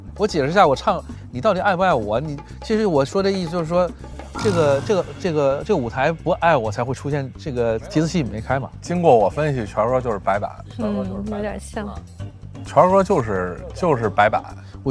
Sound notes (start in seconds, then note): 4.2 nervous stutter